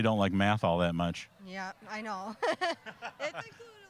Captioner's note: laughing